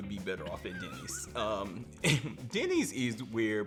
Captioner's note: laughs